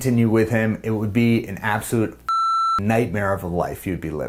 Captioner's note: beep